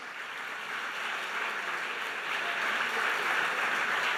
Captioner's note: audience applauding